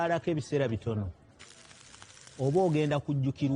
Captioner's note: torch sizzles